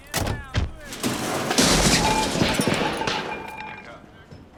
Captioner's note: shelf crashing